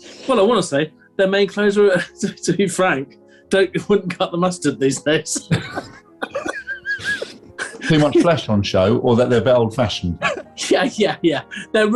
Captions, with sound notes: Well, I want to say their main clothes are, to be frank, [LAUGHING] wouldn't cut the mustard these days! [GIGGLING] Too much flesh on show, or that they're a bit old-fashioned? [LAUGHING] Yeah, yeah, yeah!